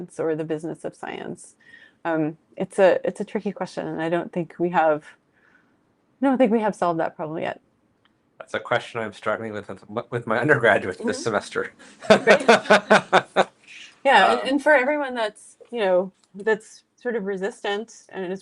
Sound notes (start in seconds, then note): 12.0 laughs